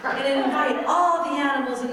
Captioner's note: audience laughing